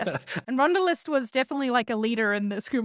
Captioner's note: laughs